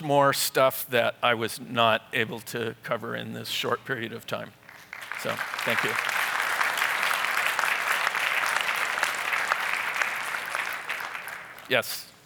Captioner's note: applause